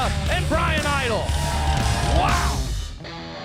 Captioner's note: crowd cheering